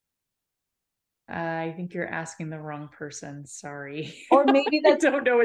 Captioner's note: laughing